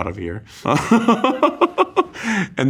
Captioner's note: Kim laughs